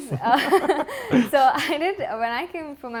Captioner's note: laughing